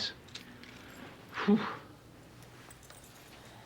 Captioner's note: exhales